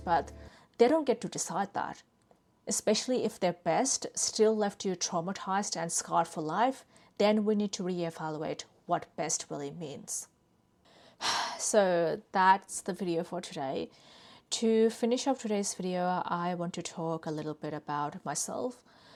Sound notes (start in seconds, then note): 11.2 sighs